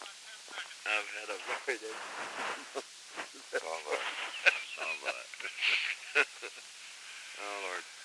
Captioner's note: background chatter and laughter